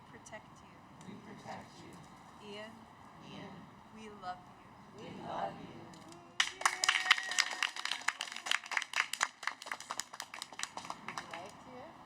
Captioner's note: cheers